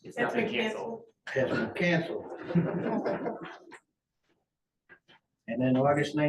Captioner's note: laughter